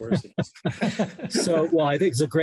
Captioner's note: laughter